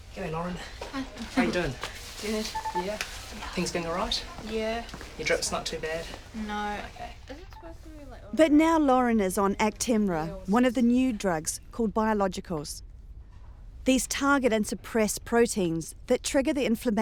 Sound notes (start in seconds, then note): none